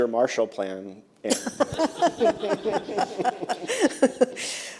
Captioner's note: laughter